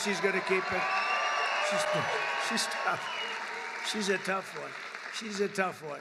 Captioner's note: applause